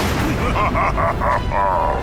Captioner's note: laughing maniacally